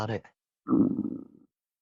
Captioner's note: stomach Grumble